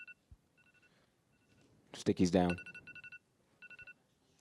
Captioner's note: timer going off